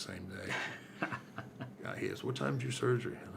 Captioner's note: laughs